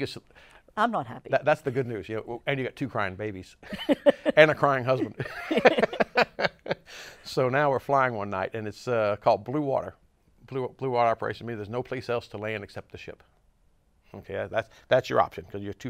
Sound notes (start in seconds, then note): 5.1 laughs